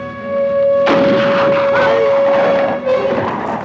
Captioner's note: gun fires